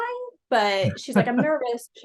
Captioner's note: laughing